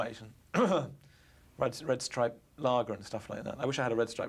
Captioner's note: clears throat